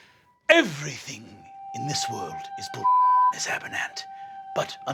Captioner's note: beeping